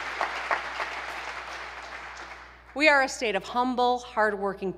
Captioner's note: applause